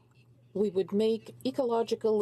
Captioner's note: speaking in French